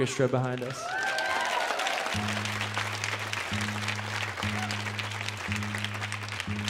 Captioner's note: audience cheering and applauding